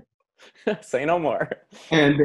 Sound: laughs

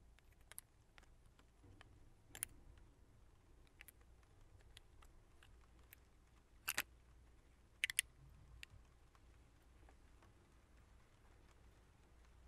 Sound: clink and rain sounds

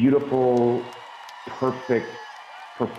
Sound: cheers and Applause

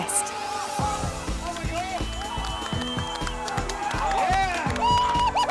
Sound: cheering

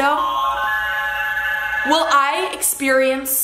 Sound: whirring

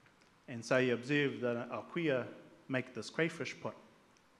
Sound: speaks in Maori

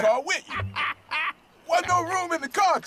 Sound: laughing

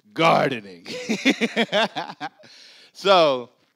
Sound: laughs

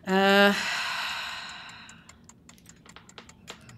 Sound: timer ticking; sighing

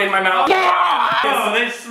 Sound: shouting

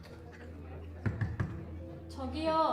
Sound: the buzz of conversation; knocking on the door

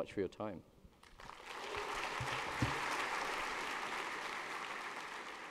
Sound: applause

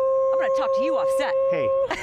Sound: laughs

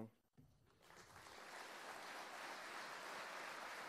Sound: applause

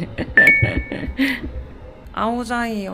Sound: can't stop laughing

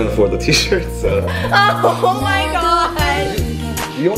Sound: laughs

